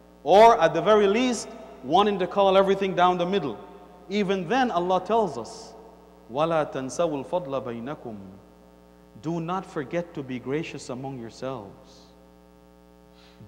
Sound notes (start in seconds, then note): 8.0 Arabic